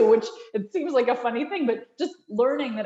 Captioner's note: chuckles